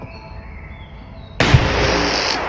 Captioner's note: gunshot